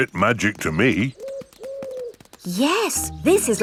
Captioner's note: owl hooting